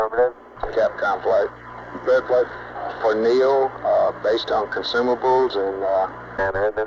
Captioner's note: mission Control Audio